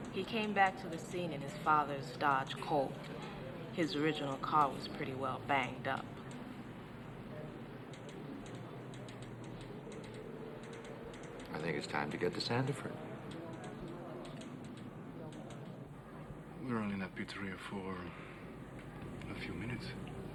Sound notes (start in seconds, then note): 7.7 people chattering; 7.7 typewriter typing; 13.6 people chattering; 13.6 typewriter typing